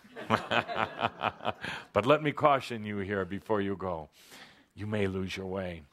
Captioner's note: chuckles